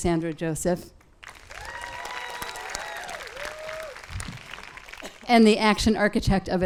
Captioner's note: audience claps and cheers